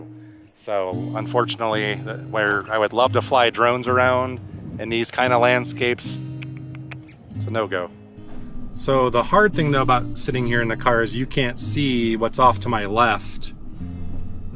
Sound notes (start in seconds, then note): 6.2 tsking